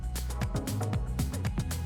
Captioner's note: none